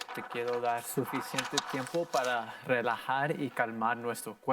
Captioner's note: in foreign language; paper crinkling